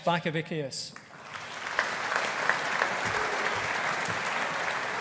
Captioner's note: audience applauding